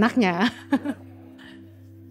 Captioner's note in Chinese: 笑声